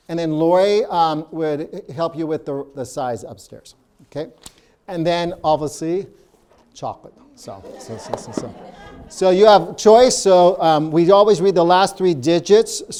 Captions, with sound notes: and then Lori would help you with the size upstairs, okay? And then, obviously, chocolate. (audience laughing) So you have choice. So we always read the last three digits.